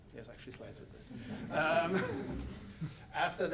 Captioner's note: audience giggling